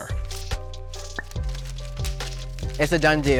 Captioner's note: money crinkling